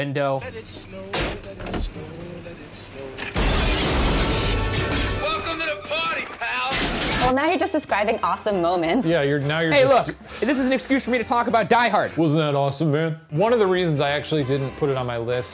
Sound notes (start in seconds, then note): 3.2 car horn blaring; 3.2 window crashing